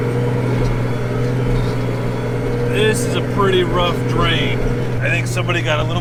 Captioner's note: tractor sound